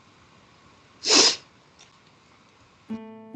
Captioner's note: she sniffs; slow, gentle music